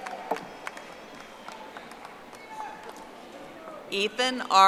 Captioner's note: audience applauding